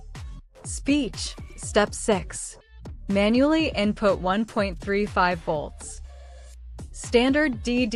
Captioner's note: speech